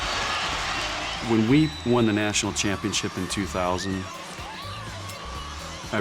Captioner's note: crowd cheering